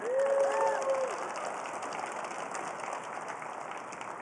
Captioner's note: applause